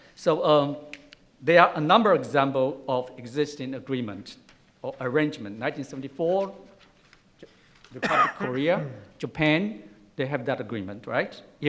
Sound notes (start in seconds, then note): 8.0 coughs